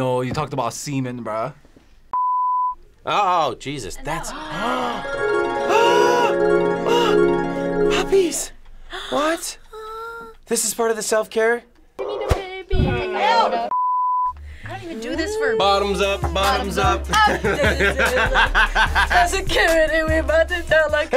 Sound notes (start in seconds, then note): 2.2 test pattern beeps; 5.4 both gasp; 13.3 test pattern beeps; 16.8 laughs